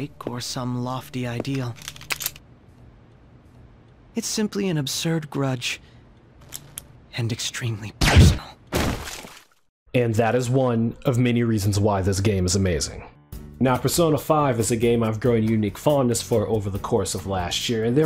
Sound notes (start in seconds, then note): 1.3 footstep sounds; 1.5 gun cocks; 8.0 gun fires; 8.7 blood splatter sounds